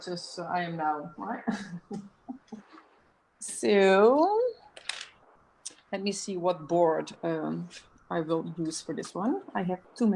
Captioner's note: chuckles